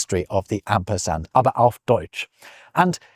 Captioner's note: in German